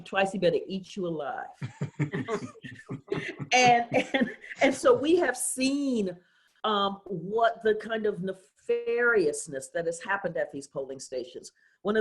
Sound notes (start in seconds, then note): 3.9 laughs